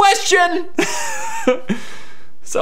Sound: laughs

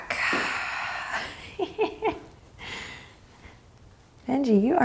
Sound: exhaling strongly; chuckles

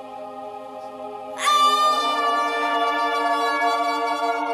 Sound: screaming

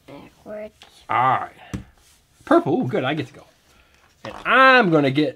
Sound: voiceover

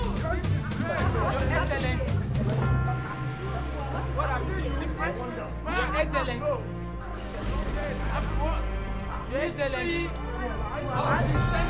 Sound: distinct chatters

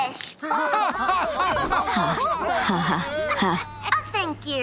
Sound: laughing

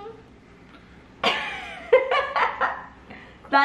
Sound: laughing

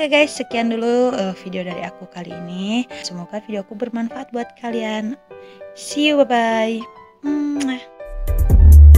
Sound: kiss

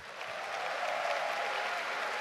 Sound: applause

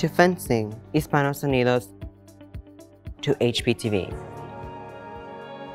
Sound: speaking in foreign language

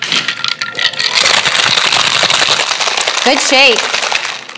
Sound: ice rattling

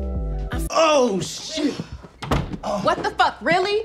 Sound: door slamming

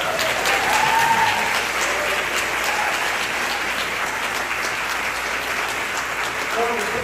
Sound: applause

